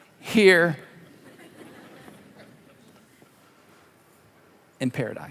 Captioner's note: congregation laughing